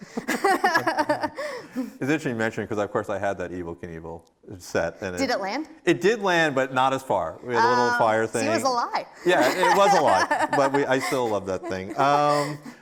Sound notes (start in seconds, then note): 0.1 both laughing; 9.3 laughing